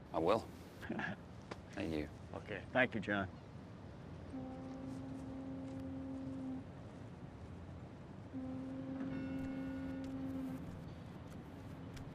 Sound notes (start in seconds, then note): 0.8 Skip chuckles; 4.5 boat horn blaring